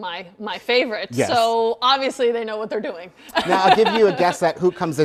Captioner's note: laughs